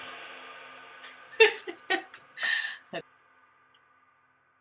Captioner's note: laughs